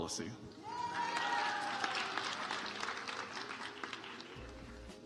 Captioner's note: audience applauds